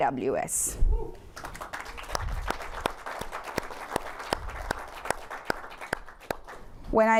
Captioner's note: applause